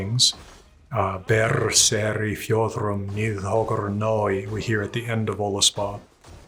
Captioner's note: speaks old norse